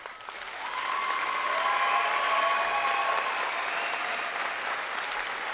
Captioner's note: crowd applauding and cheering